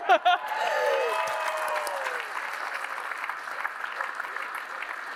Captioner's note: applause